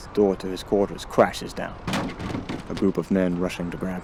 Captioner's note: crash